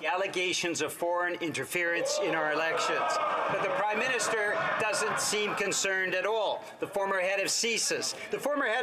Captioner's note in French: voix de l'interprète